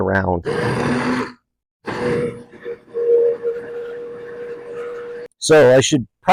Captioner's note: immersion blender churning